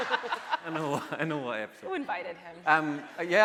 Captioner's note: laughing; voice muffled